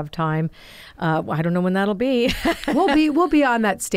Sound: laughs

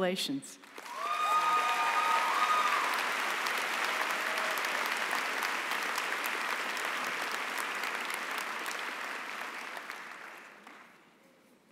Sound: applause and cheering

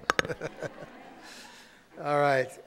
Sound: audience laughing

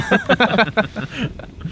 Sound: all laugh

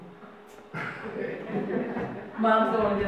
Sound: audience laughs

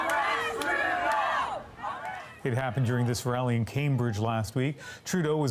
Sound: chanting

